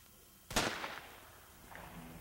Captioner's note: gunshot